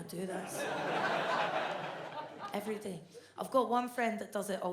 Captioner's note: audience laughs